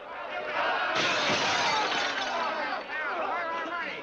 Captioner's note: glass smashes